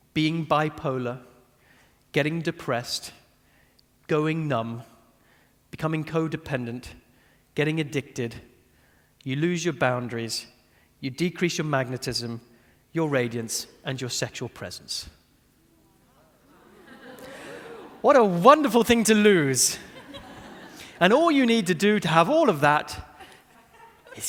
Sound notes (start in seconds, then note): 16.4 audience laughing; 16.4 audience chattering; 19.7 audience laughing